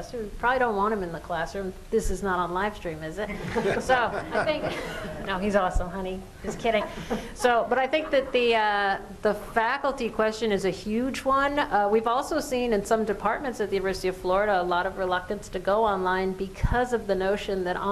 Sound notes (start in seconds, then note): 3.2 laughter